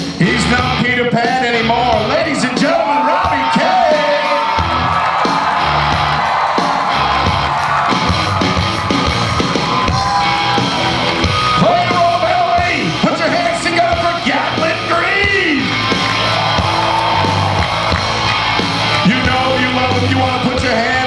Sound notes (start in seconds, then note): 5.0 audience cheers